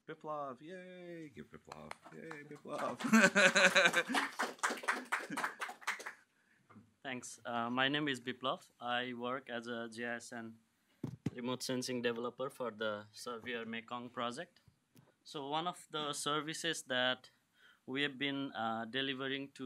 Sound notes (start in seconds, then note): 1.7 claps; 2.0 applause